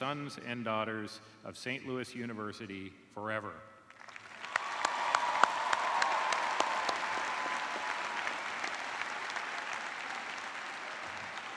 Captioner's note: cheers and applause